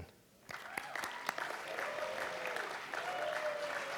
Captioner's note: audience clapping